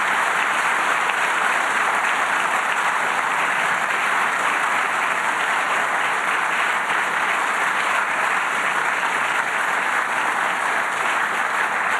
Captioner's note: applause